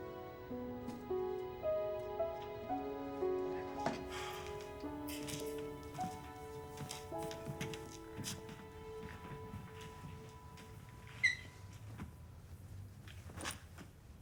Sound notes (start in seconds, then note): 4.0 sighs